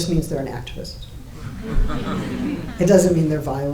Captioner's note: audience laughing